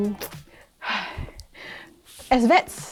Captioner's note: sighs